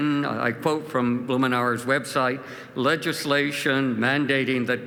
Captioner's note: none